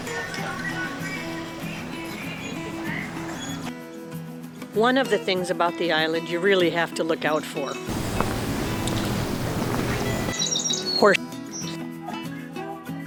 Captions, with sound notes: One of the things about the island you really have to look out for. Horse (beep).